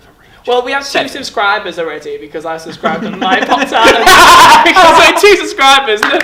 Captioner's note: laughing